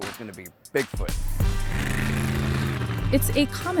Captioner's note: car roaring